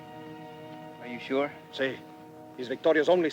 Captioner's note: Ramirez speaks Spanish